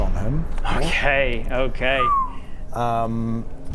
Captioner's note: whistles